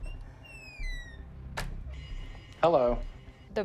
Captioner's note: creaking door opening